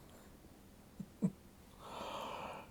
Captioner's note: chuckles